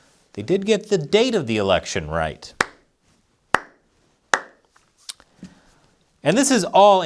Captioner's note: slow clap